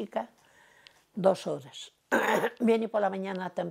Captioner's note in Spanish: Carraspea